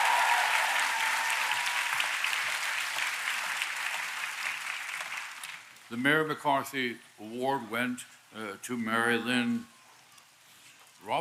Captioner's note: applause